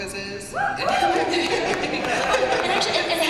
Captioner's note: applause and cheers; laughter